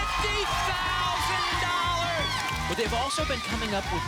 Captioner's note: applause and cheering